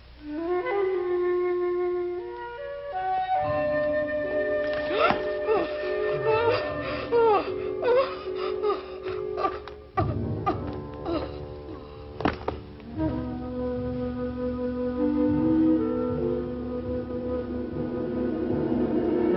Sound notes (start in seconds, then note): 0.6 suspenseful music; 4.8 Sheena shrieking